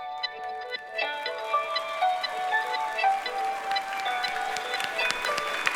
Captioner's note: audience applauding